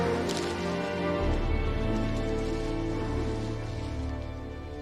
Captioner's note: leaves crushing